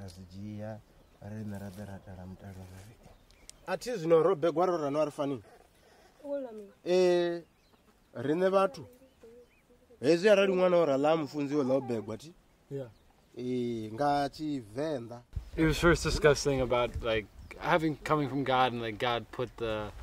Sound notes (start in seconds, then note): 1.7 speaking native language